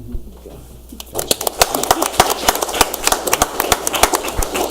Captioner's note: audience applauds